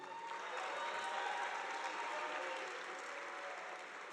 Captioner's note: audience applauding